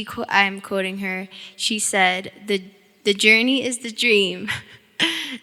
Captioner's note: chuckling